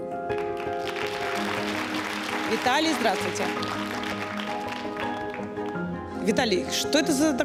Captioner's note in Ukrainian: оплески